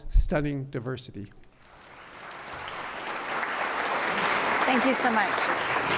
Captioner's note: applause